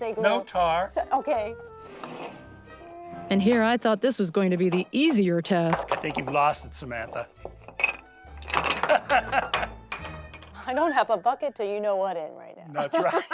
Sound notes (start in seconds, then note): 8.8 laughs